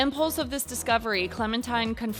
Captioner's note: none